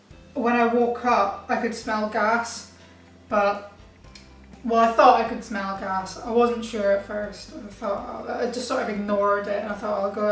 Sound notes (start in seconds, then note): none